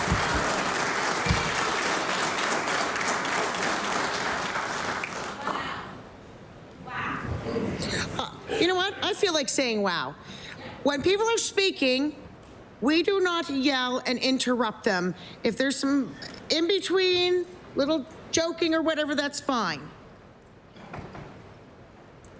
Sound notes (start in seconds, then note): 1.9 applause